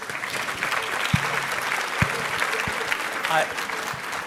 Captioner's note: audience clapping